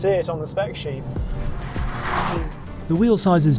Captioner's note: vehicle revs; upbeat music